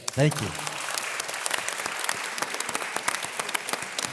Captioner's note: audience applause